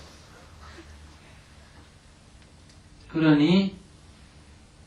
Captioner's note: audience laughter